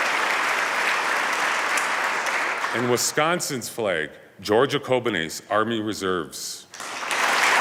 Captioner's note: applause